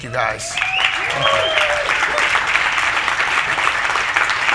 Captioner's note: audience applauding